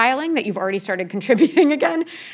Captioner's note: laugh